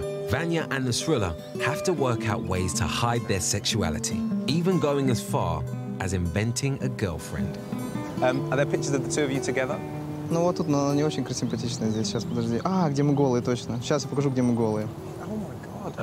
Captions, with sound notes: Vanya and Nusrulla have to work out ways to hide their sexuality. Even going as far as inventing a girlfriend. Are other pictures of the two of you together? (speaking in foreign language) Oh my god.